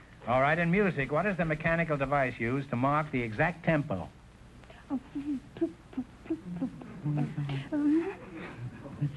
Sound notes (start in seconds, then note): 4.8 whispering tick, tock, tick, tock; 9.0 whispering